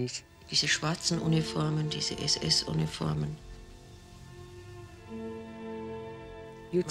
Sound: woman speaks in foreign language; thoughtful music

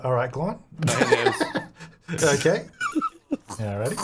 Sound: laughing

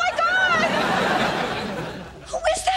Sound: audience laughing

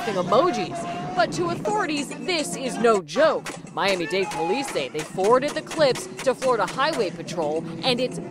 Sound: gun fire

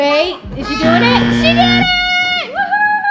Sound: buzzer buzzing

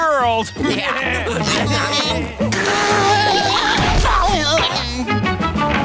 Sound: laughing; groaning

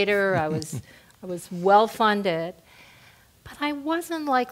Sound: laugh

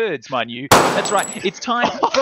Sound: gunshot

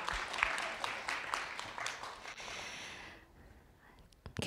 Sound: applause

